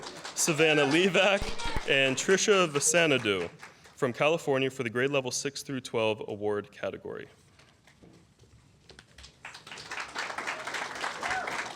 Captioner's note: applause